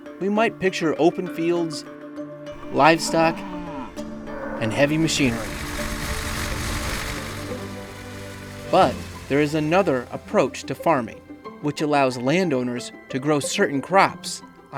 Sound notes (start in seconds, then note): 5.8 tractor whirring